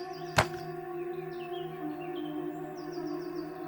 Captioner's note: bones thudding